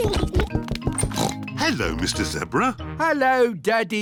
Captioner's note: oinks